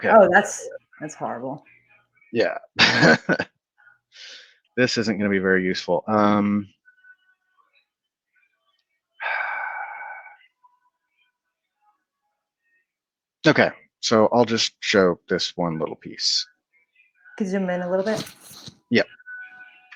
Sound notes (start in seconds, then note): 2.8 laughs; 9.2 sighs